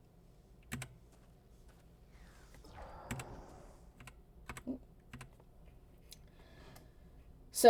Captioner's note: keyboard clicking